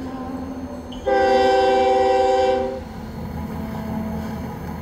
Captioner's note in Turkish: Tren sesi